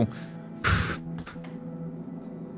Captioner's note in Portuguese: suspiro